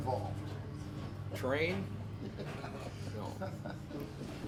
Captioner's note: laughs